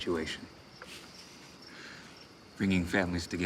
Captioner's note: laughs